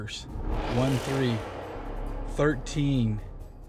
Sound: intense horn blows

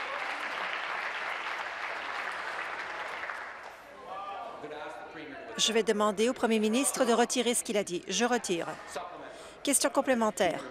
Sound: applause

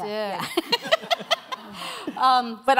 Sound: laughter

